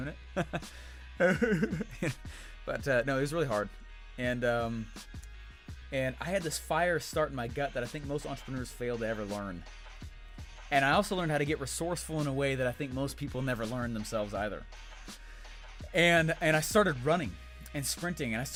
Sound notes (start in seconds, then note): 1.2 mimicks crying sound; 1.2 laughs